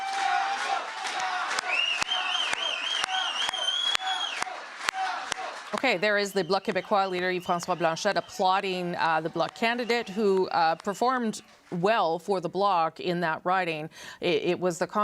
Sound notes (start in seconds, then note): 6.5 cheers and applause; 8.2 chanting